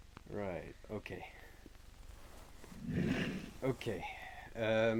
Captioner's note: chairs scrape as both sit down, small amounts of shuffling can be heard